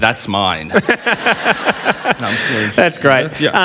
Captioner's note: laughter